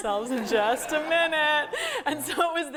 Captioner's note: laugh